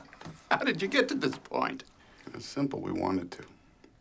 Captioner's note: laughs